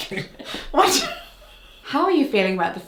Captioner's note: laughing